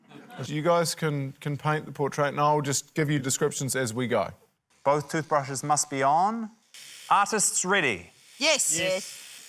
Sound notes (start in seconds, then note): 6.2 toothbrushes whirr